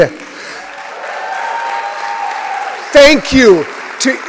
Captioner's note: applause